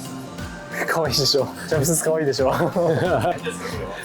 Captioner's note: laughs